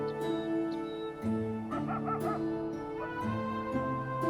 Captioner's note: somber instrumental music continues; dog barking